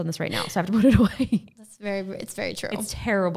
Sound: laughing

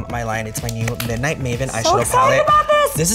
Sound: hands clapping

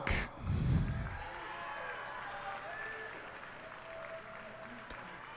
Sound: cheers and applause

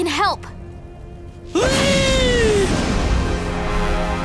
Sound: screaming

